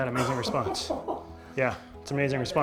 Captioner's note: laughter